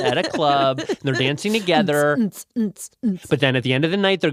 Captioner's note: beatboxes